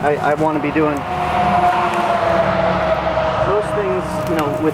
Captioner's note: truck driving